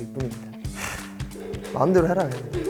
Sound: sighs

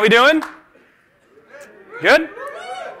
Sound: cheers

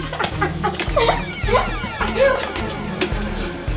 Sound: evil cackle; gasps; dramatic music

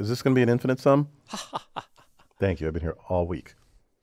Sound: laugh

